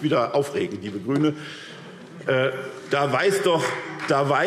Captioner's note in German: Heiterkeit und Beifall SPD